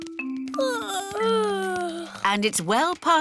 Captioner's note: yawning